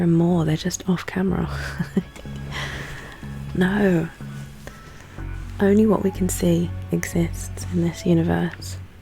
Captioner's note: laughs